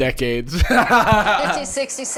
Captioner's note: laughing